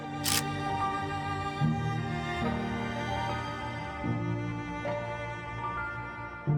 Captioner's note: shutter clicks; violin music